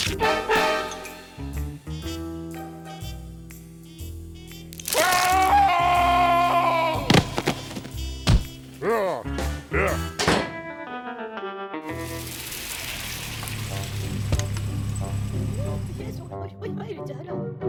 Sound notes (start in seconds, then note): 4.8 screams; 8.8 grunting; 10.1 door slams; 11.9 vehicle approaches; 16.1 speaking softly